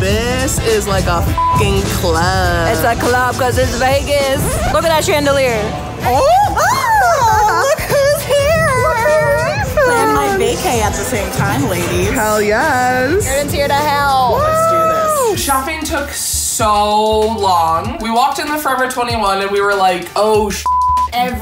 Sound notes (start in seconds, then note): 1.3 beep; 6.1 both yelling; 20.6 beep